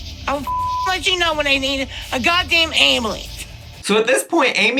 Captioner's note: beep